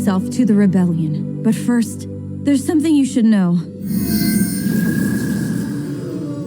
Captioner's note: all gasp